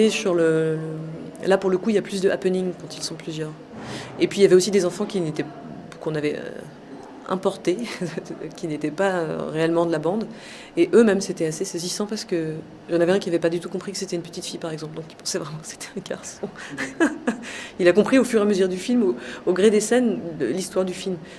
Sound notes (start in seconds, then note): 16.4 laugh